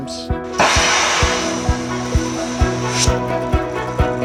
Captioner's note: torch hissing